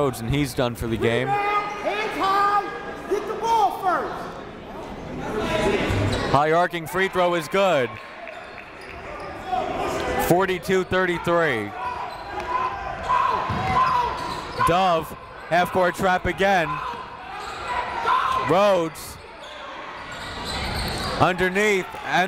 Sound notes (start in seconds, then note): 2.5 coaches yelling; 2.5 crowd talking; 12.8 coaches yelling; 12.8 crowd talking